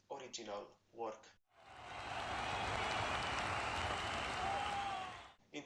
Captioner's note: crowd cheering